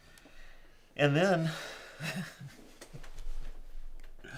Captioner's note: chuckling